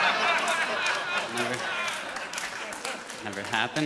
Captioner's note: audience laughs